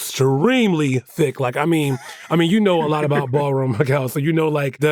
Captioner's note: laughs; laughs